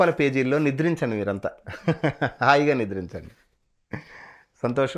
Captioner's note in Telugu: నవ్వు